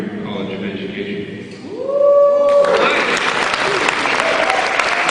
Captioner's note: cheering